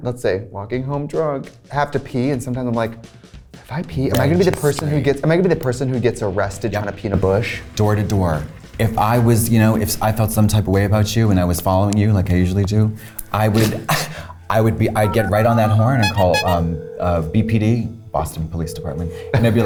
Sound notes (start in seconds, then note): 14.9 horn honking; 18.9 phone ringing